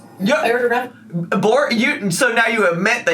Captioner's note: stammers